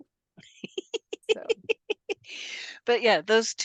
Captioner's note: laughs